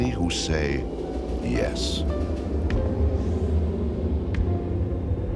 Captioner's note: whooshing